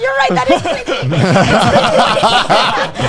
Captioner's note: all laughing